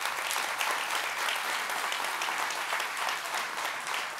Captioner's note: audience applauds